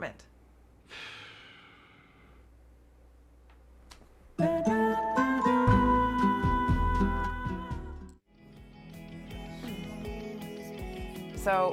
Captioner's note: sighs